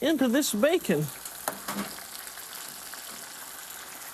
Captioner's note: sizzling